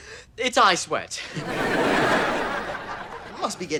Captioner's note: audience laughter